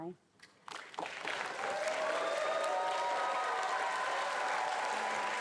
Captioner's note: attendees applauding and cheering